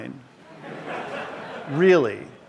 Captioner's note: laughter